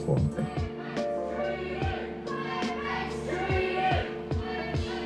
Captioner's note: naidoc march chant